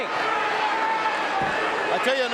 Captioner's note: audience cheering